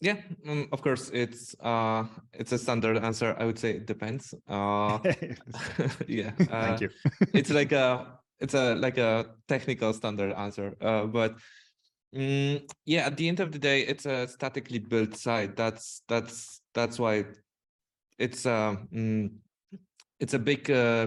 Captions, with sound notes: - Yeah, of course. It's a standard answer, I would say it depends. (laughs) Yeah. - Thank you. - It's like a technical standard answer, but yeah, at the end of the day, it's a statically built site that's why it's a big thing when it comes to performance.